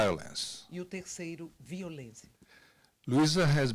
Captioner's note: translator speaking Portuguese